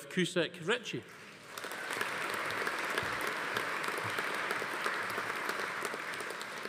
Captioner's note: audience applauding; attendee cheering